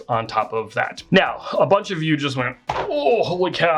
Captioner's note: groans